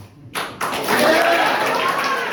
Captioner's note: audience cheers and applauds